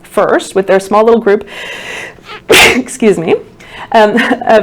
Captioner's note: sneeze. Excuse me